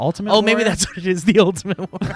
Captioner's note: laughs